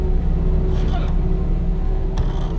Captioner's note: gasping